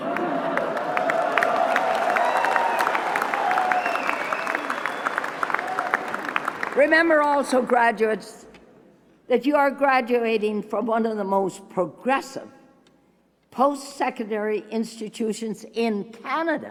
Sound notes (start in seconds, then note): 7.8 applause